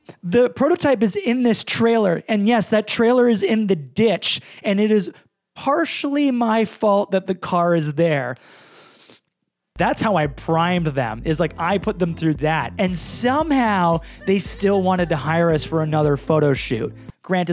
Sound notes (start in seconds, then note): 8.9 slurps